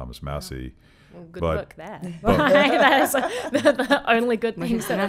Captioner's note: laughing